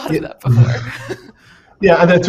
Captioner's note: laughs